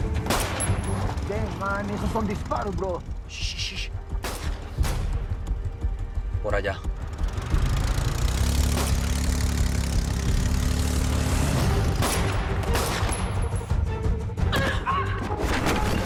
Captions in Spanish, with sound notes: [Disparo] - MALDITA SEA, MAN. ESOS SON DISPAROS, BROTHER. - SHH, SHH, SHH. [Disparos] POR ALLÁ. [Sonido del motor acelerando] [Disparo] [Disparos] [Gritos y exclamaciones]